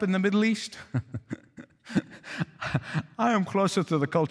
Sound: laughing

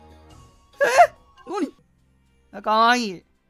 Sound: more excited noises

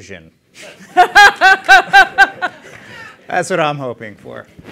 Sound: laughter

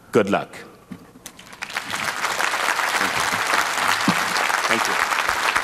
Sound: applause

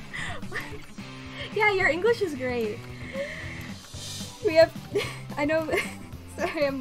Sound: laughs; through laughter

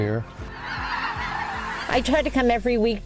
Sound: cranes calling

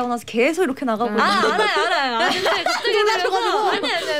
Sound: laughing hahaha

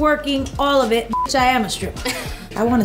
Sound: beep

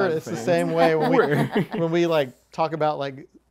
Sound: laughing

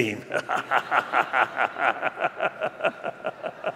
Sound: laughter

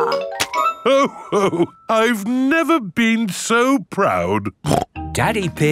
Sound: snorts

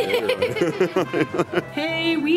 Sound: laughs

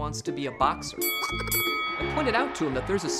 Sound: bell rings

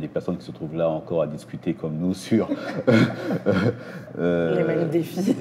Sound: laughter

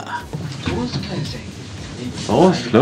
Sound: door's closing

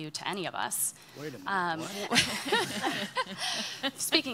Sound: laughing

